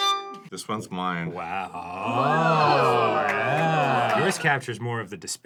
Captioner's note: crew awes